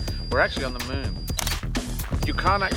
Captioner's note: camera snapping